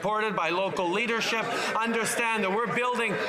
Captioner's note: some Applause